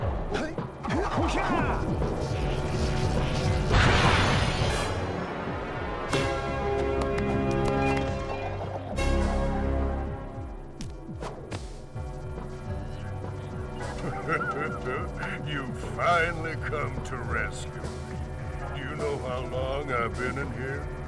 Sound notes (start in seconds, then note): 13.8 laughs